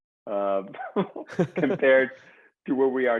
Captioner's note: both chuckle